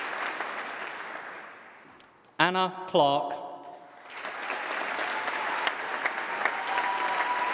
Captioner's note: applause